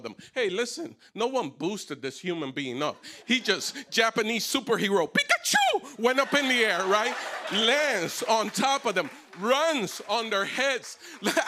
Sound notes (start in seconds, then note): 6.2 laughter